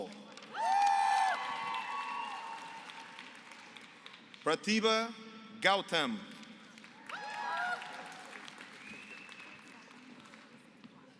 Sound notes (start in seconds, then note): 0.0 applause; 6.6 applause